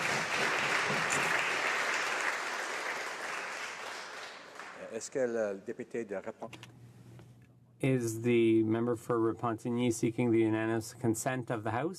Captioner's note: applause